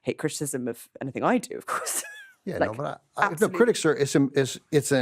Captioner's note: laughs